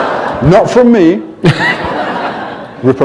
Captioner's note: laughter